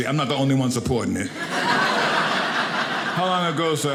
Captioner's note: audience laughing